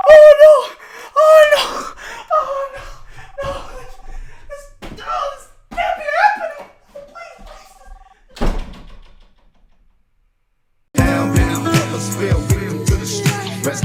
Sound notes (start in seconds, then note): 0.1 begins to cry; 8.2 door slam